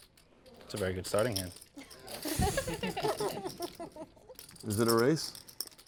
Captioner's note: laugh